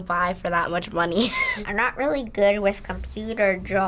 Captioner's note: chuckles